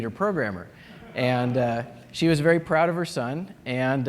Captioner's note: laughter